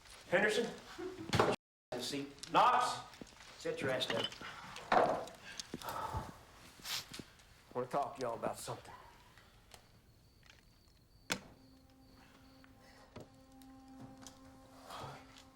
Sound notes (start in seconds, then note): 11.1 foreboding music; 11.2 gun thuds